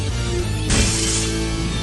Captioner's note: smash